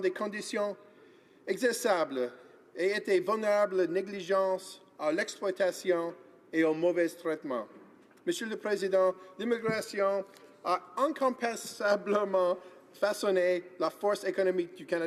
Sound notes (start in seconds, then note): 0.0 speaking in French